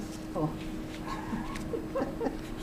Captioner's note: laughs